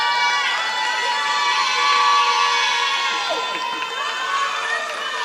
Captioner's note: applause